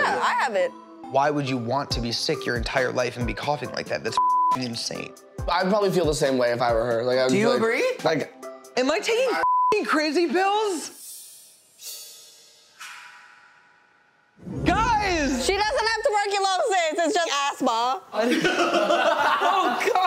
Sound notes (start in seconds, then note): 4.2 beeps; 9.4 beeps; 18.2 laughing